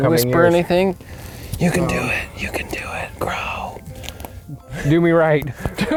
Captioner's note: whispering